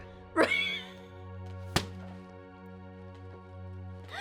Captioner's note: laughing